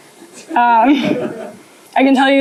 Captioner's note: laughter